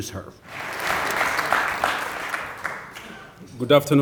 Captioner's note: applause